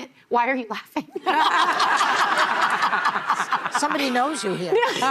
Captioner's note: laughing